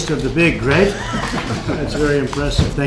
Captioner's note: laughter